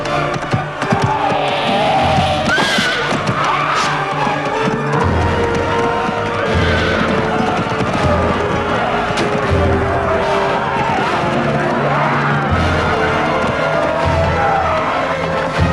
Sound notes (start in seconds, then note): 1.3 woman growls; 6.7 men shouting